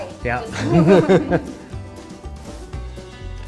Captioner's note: chuckles